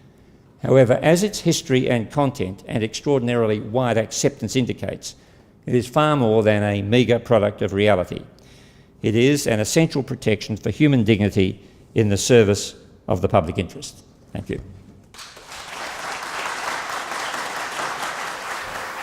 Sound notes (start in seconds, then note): 15.1 audience Applause